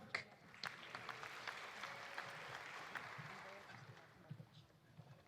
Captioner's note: audience applauding